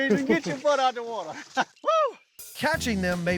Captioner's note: laughing